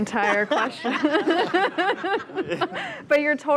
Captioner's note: laughter